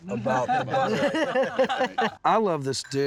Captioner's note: laughter